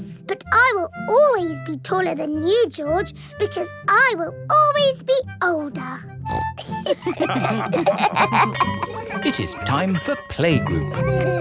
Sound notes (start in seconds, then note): 6.2 snorts; 6.6 all laughing; 8.2 school bell ringing